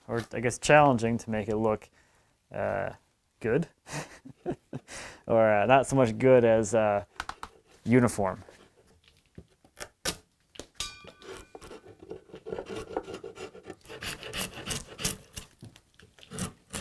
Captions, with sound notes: or, I guess, challenging to make it look good. (chuckles) Or, not so much good as uniform. (knife scratching) (wood splintering)